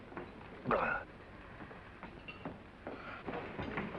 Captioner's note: gasps